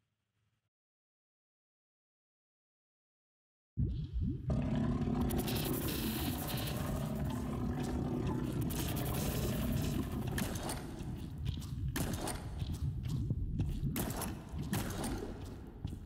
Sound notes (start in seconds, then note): 4.5 gurgling; 10.2 shots